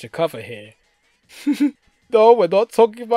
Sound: giggles

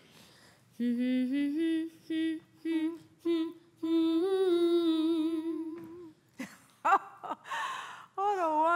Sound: humming

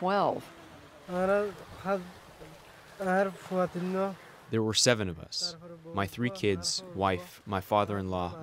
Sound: through translator

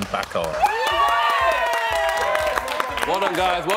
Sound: cheering

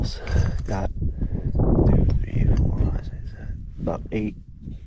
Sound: bottle clinks

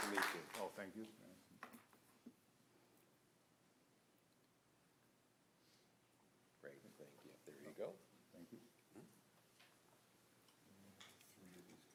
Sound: applause

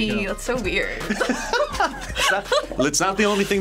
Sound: both laugh

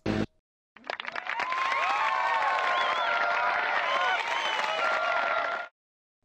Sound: applause

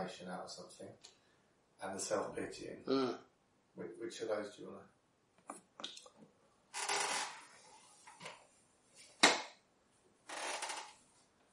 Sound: silence

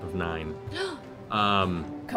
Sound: gasps

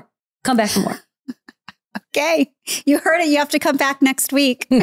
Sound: giggling

